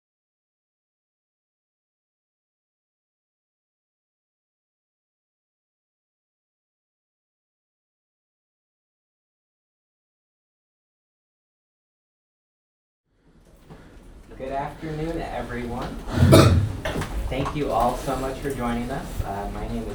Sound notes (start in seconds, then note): 16.1 man coughing